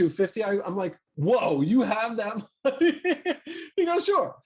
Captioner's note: laughs